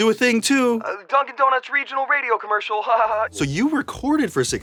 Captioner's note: laughs